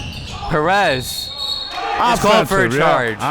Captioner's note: whistle blowing